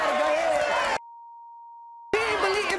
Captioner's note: beep